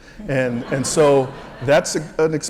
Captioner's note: laugh